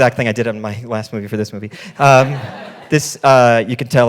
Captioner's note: audience laughing